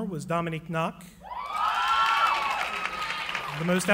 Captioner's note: cheering